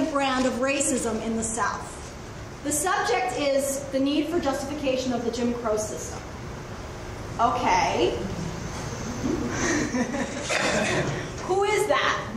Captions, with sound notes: brand of racism in the South. The subject is the need for justification of the Jim Crow system. Okay. (everyone laughs) Who is that?